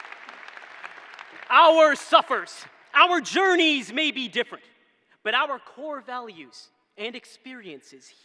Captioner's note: cheering